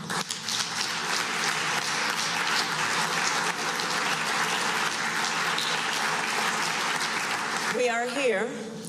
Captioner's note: applause